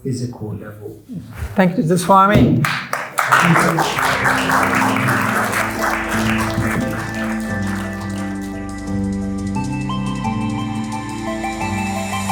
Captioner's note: applause